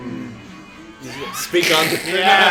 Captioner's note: laughs; collective hum of agreement